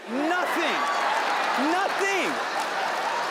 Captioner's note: audience laughing